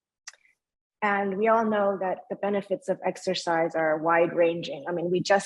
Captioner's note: speaking in foreign language